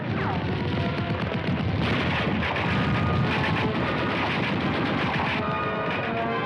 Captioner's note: gunshots